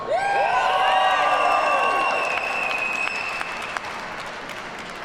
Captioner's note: audience cheers and applauds